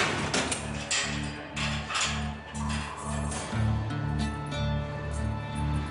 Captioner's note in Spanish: Ruido al abrir rejas